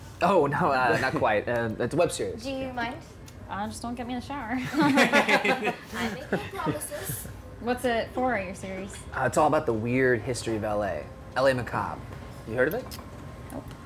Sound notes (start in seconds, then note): 4.6 all laugh